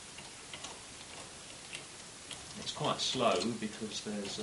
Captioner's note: quiet turning of gears